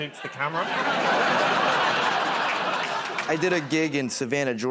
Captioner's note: laughter